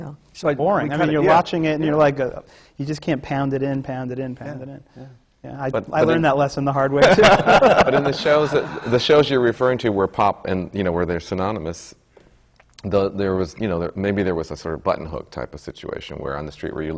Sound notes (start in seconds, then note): 7.0 laughter from the panel